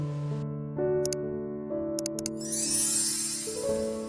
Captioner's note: magic